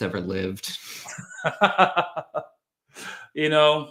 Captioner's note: laughter